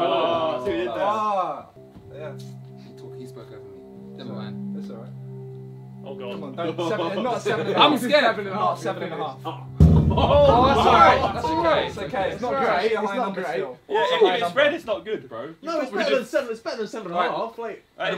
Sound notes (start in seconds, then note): 1.8 tense music; 5.8 tense music; 9.8 drum beats; 10.0 all laughing; 12.8 all chattering